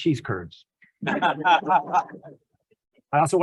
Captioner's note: laughs